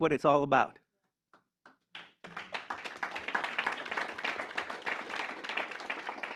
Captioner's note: applause